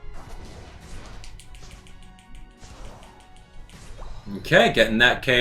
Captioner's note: buttons clicking